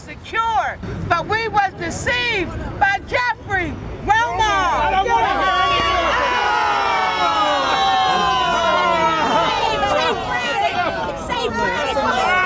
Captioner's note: screams